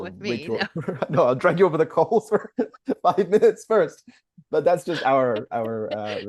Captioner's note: laughs